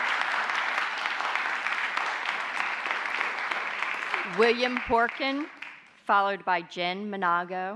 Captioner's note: applause